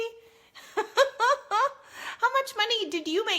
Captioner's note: laughs